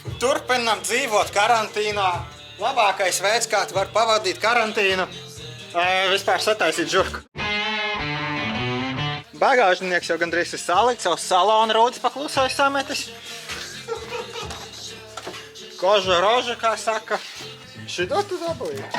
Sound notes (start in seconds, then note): 13.6 laughing